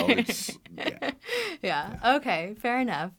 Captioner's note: laughs